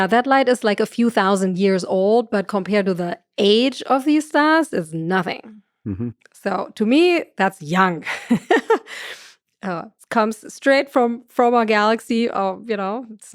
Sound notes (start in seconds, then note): 9.0 chuckles